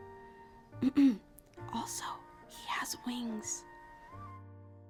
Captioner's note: clears throat